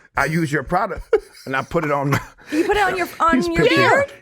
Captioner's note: chuckles